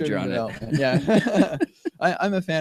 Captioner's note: laughter